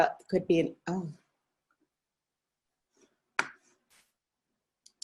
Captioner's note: silence